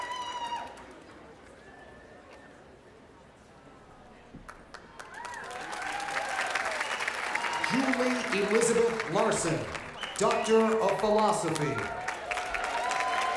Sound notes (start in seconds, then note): 2.2 cheers and applause